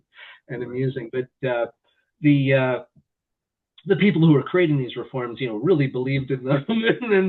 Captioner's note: laughter